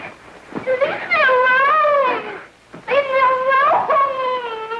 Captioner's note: whimpering